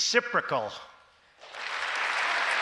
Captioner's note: applause